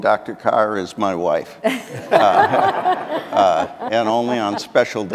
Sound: audience laughing

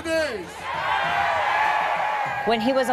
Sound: crowd cheering

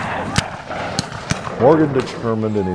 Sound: canon shots

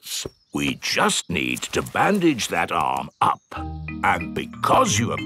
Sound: in teddy's voice; in normal voice

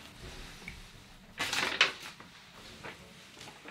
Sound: paper rustles

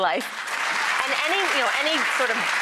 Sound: applause

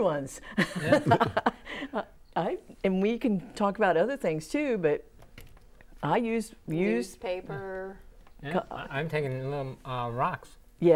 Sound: laughing

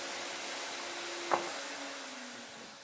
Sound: machine whirring ends

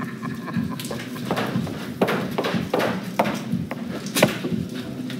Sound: tapping on wall

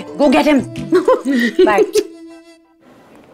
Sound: both laughs

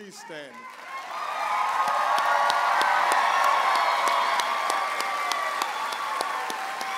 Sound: audience applauding and cheering

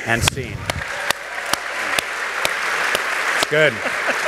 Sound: applause

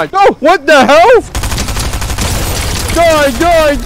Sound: rapid gunfire

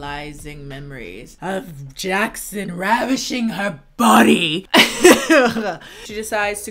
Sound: laughs nauseously

